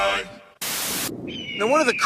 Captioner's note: static